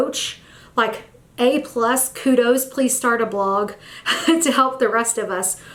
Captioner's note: chuckles